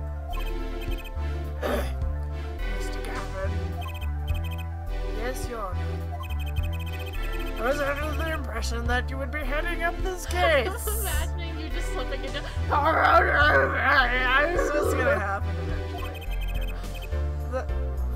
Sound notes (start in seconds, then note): 10.3 laughs